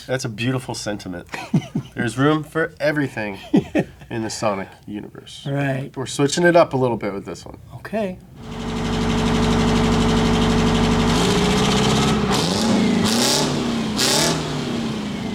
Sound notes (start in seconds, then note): 1.2 laughs; 8.3 engine revs